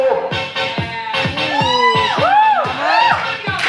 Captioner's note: applause